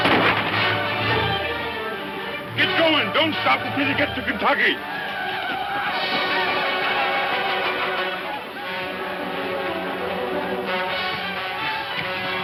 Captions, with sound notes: - Keep going. Don't stop until you get to Kentucky. (shouting ecstatically)